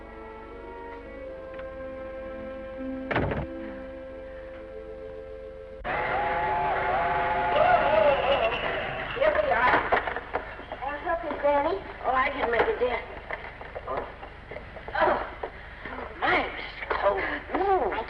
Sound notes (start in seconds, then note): 0.0 gentle music; 3.0 door latches; 3.6 Esther sighs; 5.9 train horn blaring